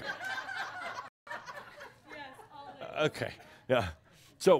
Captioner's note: more laughter